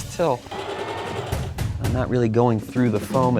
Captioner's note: sewing machine whirring